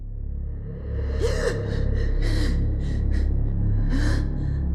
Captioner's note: evan gasps